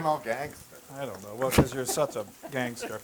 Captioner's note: laugh